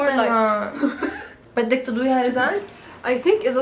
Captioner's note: laughs